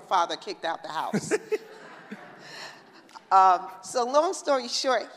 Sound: laughing

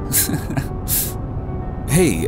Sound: nervous laughter

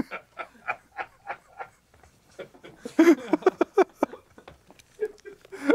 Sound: laughing

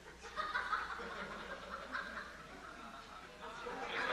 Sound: audience laughing

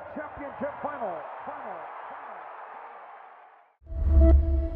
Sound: cheering

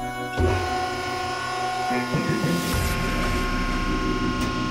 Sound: machine whirring

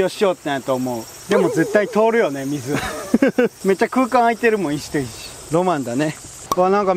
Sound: haha

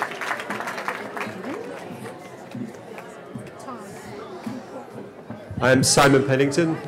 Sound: cheering

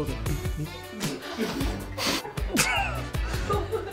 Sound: laughs

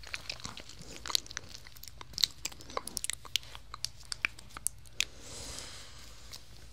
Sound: foam sounds

